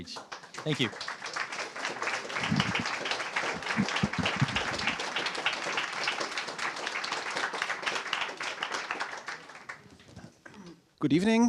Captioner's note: applause